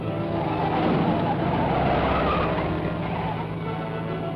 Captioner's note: cars crash; thrilling music